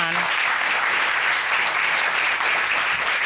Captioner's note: applause